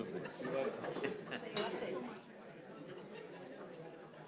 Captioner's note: laughing